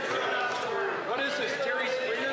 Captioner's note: some Applause